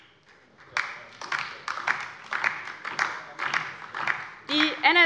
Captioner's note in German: Beifall DIE LINKE